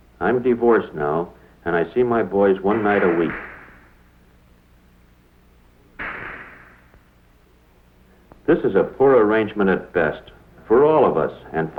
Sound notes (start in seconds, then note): 2.7 sound of balls colliding on a pool table